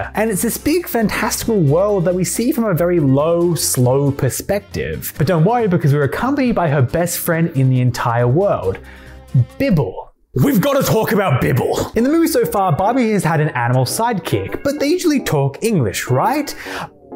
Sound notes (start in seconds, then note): 8.7 bibble voice